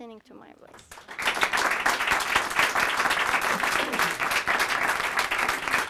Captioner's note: audience applauding